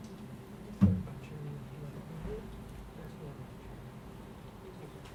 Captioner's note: audience murmuring